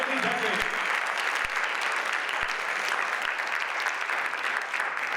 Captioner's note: audience applauds